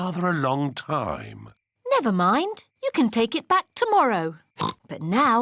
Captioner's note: oinks